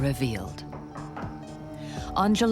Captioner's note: knocking on door